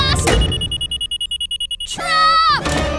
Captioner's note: beeping